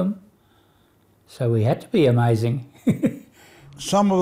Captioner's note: laughs